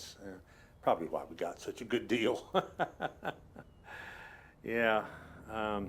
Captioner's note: laughs